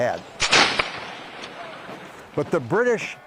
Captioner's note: gun fires